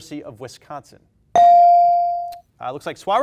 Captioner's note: bell dings